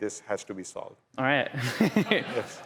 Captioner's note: laughs